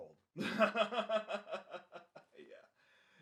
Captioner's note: laughs